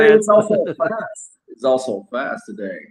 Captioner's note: laughs